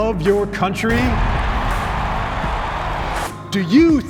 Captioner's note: audience cheering